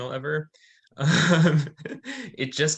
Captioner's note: laughing